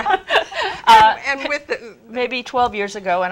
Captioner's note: laugh